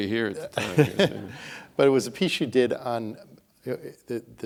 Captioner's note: laughs